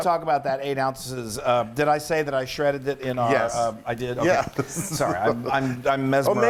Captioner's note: laugh